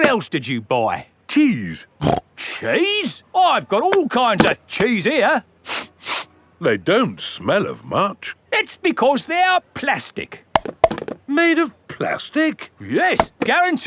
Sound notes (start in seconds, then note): 2.3 snorts; 5.7 sniffs; 10.6 clunks